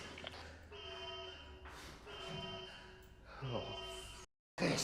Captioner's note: alarm blaring